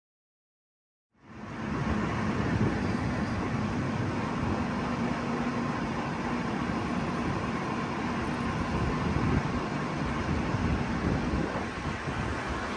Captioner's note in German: Wagen-Geräusche